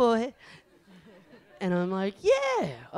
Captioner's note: audience laughs